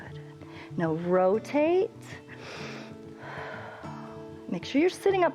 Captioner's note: inhales and exhales